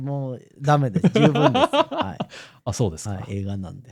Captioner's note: laughter